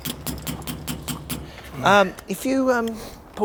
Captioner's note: metallic knocking